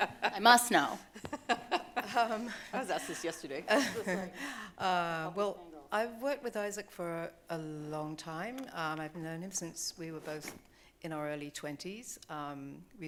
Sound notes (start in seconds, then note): 0.0 laughing